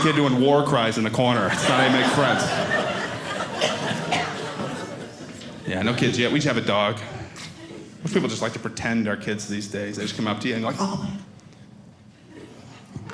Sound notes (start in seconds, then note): 3.0 audience laughing